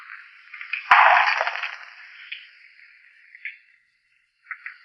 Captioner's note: glass shatters